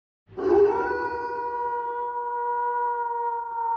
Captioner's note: wolf howling